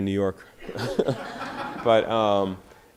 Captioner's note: audience laughter